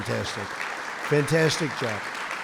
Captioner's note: applause